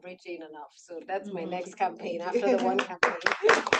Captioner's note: attendees applauding; laughs